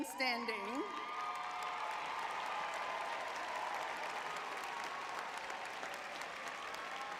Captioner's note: audience cheering